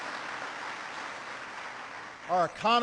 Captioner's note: applause